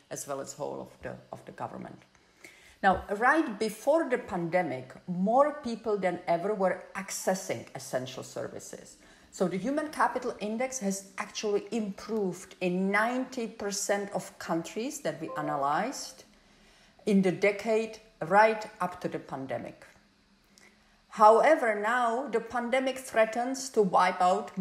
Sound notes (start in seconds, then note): 15.3 phone beeps